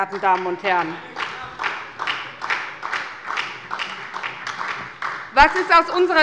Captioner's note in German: Beifall bei der SPD - Zuruf von der CDU: Das hat keiner gesagt!